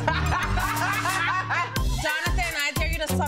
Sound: both laughing

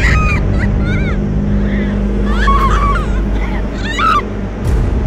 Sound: Morgan and Heather screaming

